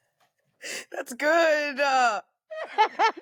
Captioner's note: laughter